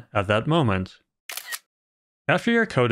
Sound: camera click sound

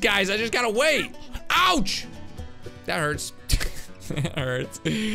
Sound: laughs

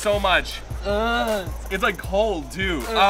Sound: grunting

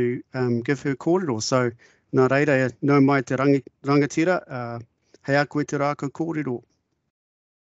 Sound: speaking in te reo Māori

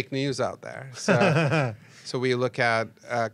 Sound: laughs

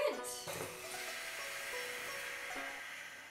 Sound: loud breathing

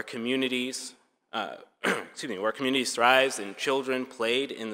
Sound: clears throat

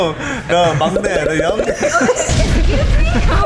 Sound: popping

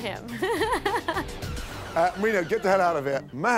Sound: laughing

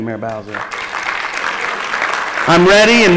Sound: applause

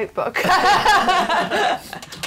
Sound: laughter

